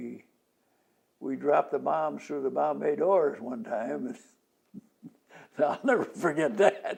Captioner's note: laughs